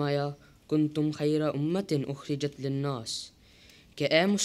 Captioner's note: Arabic